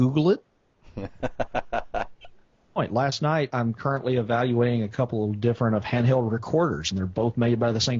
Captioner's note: laughs